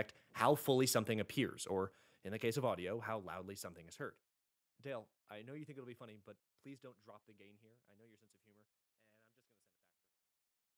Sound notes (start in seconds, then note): 3.9 audio continues to fade out; 8.1 audio completely fades out into nothing